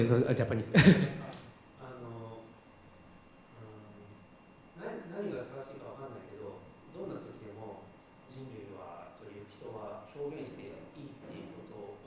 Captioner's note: speaking japanese